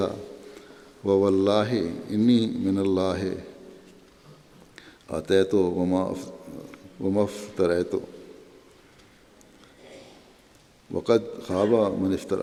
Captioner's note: Arabic